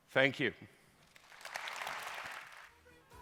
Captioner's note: applause